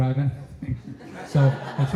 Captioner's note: laughter